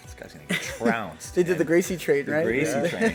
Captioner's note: laughter